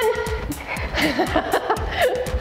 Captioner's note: laughing